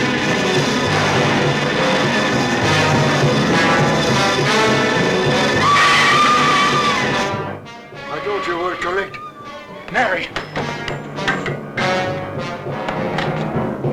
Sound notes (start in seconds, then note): 5.4 screaming; 11.0 dramatic music